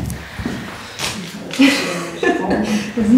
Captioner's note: lacht